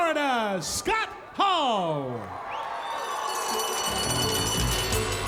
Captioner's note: crowd cheers